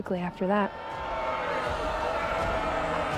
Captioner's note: crowd boos, shouts